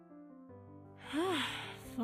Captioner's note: OLIVIA sighs